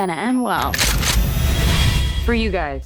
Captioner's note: guns cocking